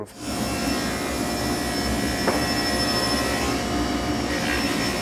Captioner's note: table saw whirring